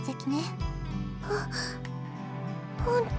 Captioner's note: gasp